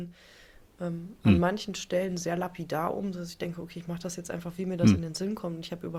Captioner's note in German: räuspern